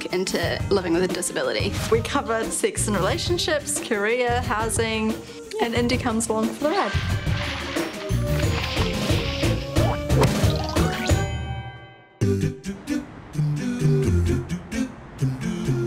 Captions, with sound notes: into living with a disability. - We cover sex and relationships, career, housing and Indy comes along for the ride. (air whooshing) (upbeat vocal music)